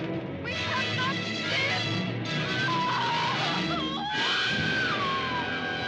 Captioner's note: screaming